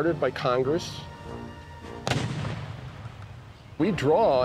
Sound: cannon fires

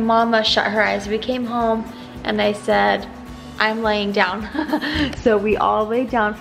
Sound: laughs

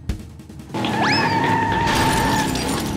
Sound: squealing tires; crashing

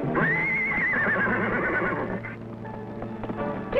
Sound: neighs

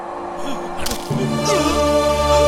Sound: bones Break

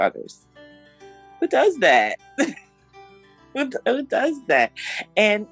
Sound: laughs

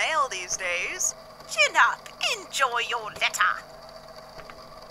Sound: In a terrible imitation of Grian's accent

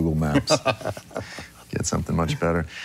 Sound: laughing

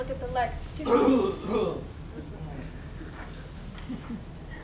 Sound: Rank clears throat

